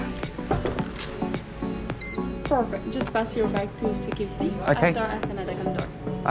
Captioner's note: thermometer beeps